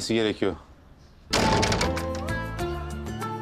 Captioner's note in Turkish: Kapı çarpma sesi